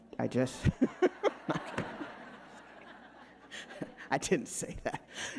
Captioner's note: all laughing